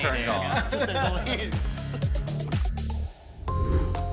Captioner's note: all chuckling; soft music